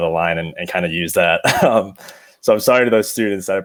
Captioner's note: giggles